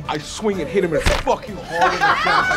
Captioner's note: laughing